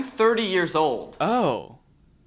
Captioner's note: voiceover